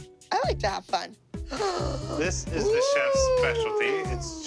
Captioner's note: gasps